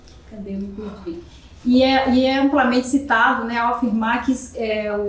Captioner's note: speaking portuguese